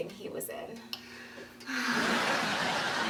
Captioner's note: sigh